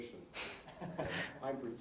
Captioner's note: all laughing